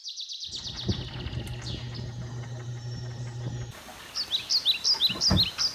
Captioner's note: motor rumbles and whirs